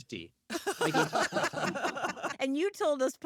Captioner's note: laughter